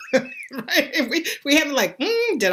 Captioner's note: laughing